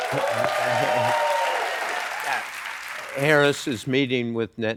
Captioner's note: applause